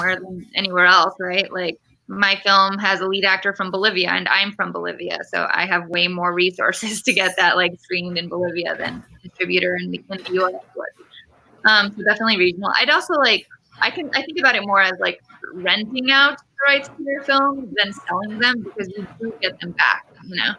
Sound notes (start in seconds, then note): 10.0 radio interference drowns out speaker